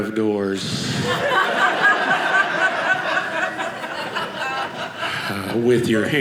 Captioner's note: audience laughing